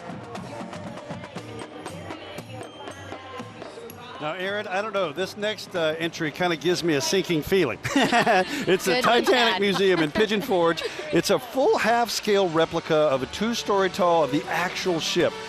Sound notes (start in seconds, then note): 0.0 drum music; 7.8 laughing